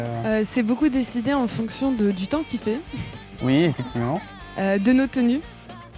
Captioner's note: laugh